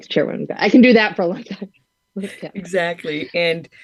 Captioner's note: laughs